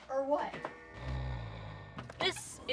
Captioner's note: snoring